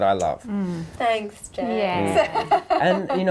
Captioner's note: laughing